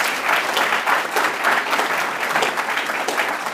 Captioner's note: applause